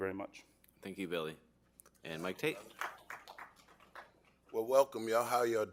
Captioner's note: applause